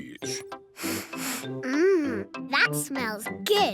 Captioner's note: sniffs